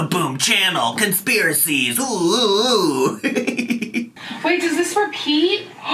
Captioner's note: laughing